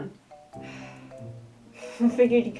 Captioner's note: sigh